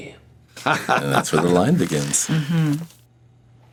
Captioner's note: laughs